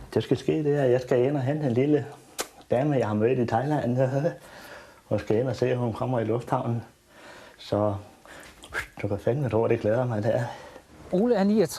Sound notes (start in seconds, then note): 8.7 whistle